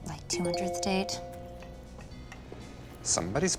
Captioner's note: phone chimes